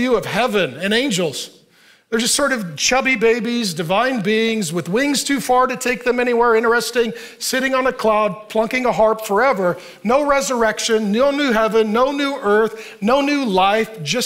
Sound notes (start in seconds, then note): none